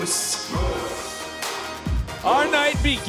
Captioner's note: crowd chants "Moose"